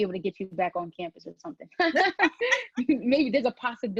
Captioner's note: laugh